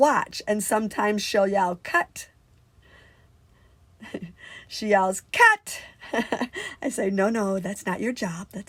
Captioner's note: laughs